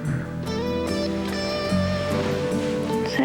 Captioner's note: telephone bee